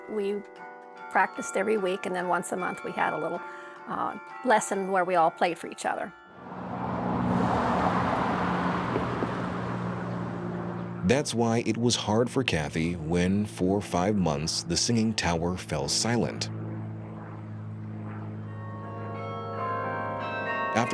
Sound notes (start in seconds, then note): 6.4 car engine humming; 19.0 bells ringing